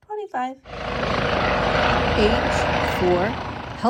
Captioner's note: helicopter blaring